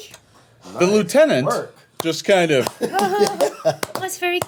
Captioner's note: slow clapping